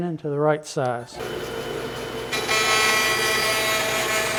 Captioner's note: saw cutting